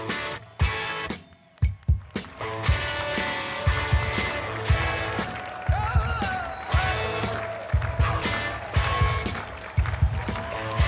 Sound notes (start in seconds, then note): 4.9 applause